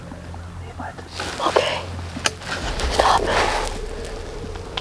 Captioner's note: whispering